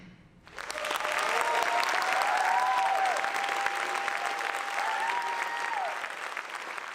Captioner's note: audience applauds; audience cheers